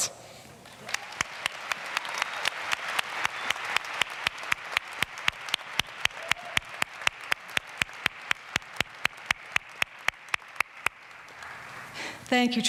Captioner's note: applause